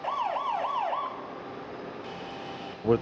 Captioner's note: alarm